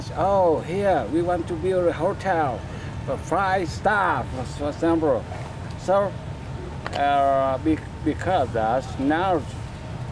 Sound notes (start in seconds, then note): none